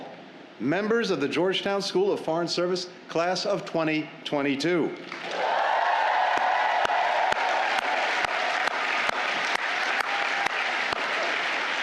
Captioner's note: cheers